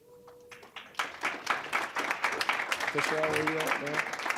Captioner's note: applause